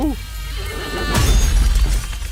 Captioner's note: screams